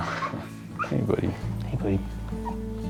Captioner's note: Ollie whimpers